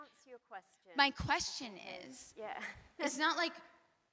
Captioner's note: laughs